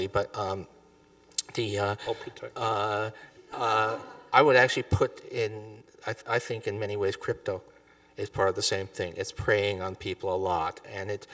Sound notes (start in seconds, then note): 4.7 audience chuckling